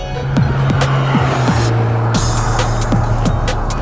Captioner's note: engine roaring